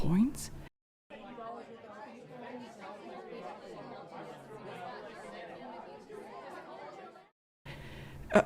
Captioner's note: crowd murmurs softly